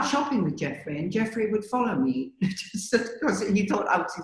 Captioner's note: laughs